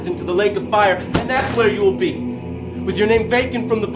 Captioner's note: bible slams table